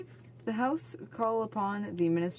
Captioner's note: speaking French